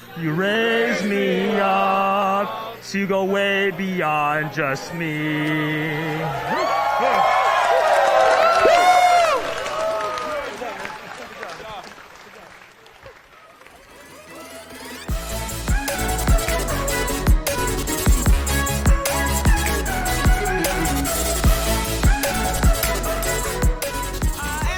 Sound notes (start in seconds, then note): 6.0 cheering; 13.7 upbeat music